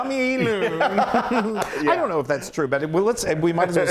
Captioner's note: laugh